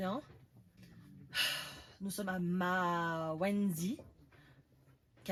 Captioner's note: sigh